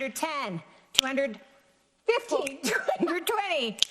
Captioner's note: laughs